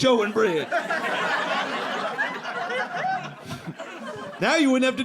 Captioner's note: audience laughing